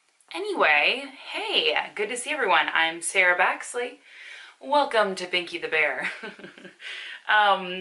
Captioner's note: laughs